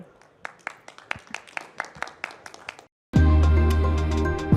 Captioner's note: audience claps; upbeat music